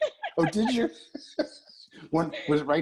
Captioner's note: laugh